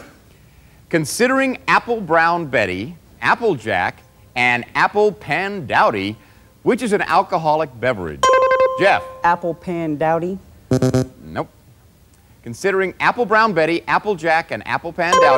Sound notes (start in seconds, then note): 8.2 button chimes; 10.7 buzzer; 15.1 button chimes